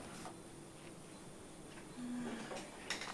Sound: sighs

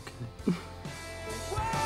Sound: Marie chuckles

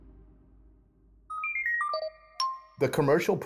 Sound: beeping

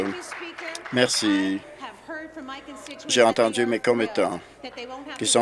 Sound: some Applause

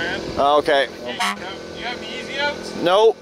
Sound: car horn honks

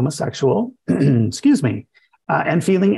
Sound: coughs

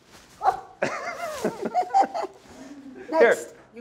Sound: Ruth laughing

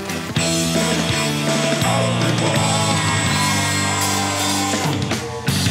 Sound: Loud Ikkan... I mean Quinn Screaming noises

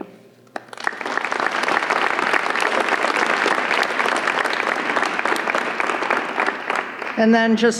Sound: applause

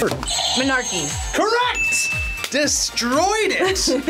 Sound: buzzer rings; bell rings

